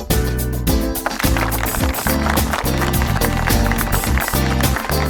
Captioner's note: upbeat percussive music continues; audience applauds